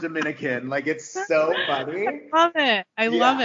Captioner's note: laughing